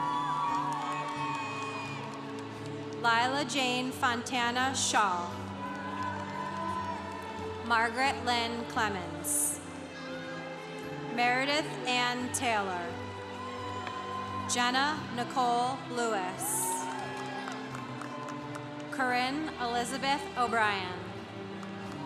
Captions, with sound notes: (congregation cheering) Lilah-Jane Fontana Challe. (congregation cheering) Margaret Lynn Clemens. Meredith Ann Taylor. (congregation cheering) Jenna Nicole Lewis. (congregation cheering) Corinne Elizabeth O'Brien.